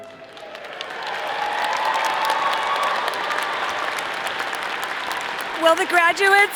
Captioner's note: all applauding; all cheering